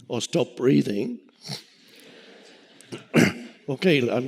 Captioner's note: audience laughing